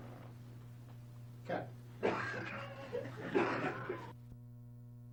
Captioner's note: laughter